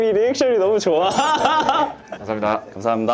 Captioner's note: giggle